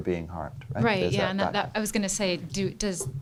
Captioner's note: voiceover